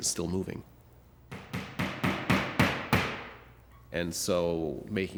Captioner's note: hammer banging